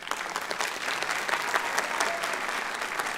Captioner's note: applause